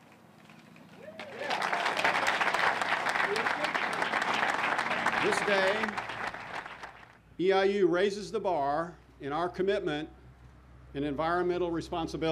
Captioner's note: clapping